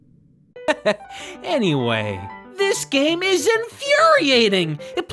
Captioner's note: chuckle